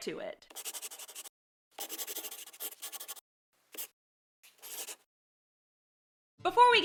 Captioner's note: the sound of a pen scratching. LOGO